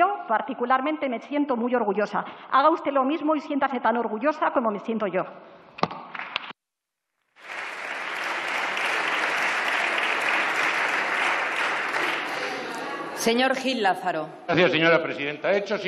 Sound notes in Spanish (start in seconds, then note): 7.3 Aplausos